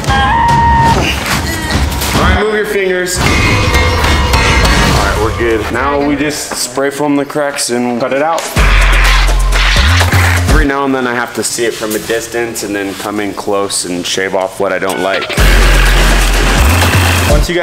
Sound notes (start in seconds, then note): 0.2 screaming; 3.1 suspenseful music; 3.3 metal clanging; 8.4 action music; 15.3 power tools rumbling